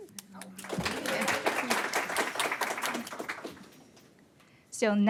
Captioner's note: audience clapping